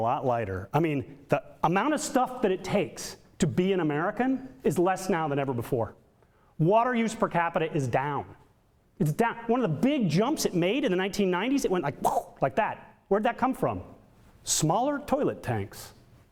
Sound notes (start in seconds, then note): 12.0 imitates whooshing